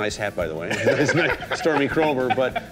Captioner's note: laughing